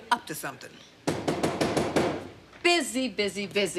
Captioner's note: knocking on door